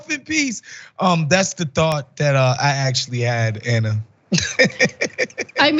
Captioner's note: laugh